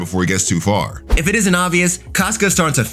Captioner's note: air whooshing